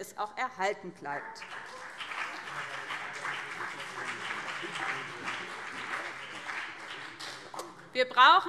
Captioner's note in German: Beifall BÜNDNIS 90/DIE GRÜNEN und CDU